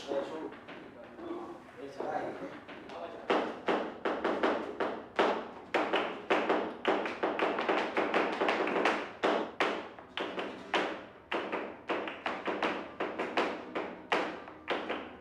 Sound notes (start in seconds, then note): 3.0 foot tapping, clapping